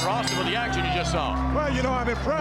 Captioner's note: bell ringing